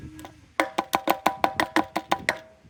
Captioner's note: bottle tapping on metal